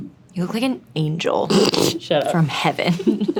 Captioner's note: laughs; Milly laughing